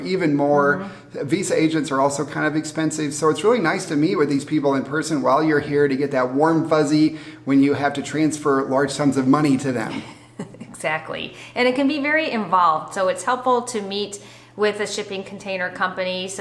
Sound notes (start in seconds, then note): 9.8 chuckles